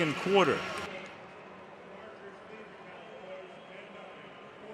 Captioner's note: pa announcement